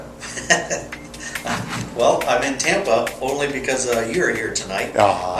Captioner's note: laughter